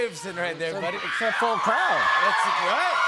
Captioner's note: cheers and applause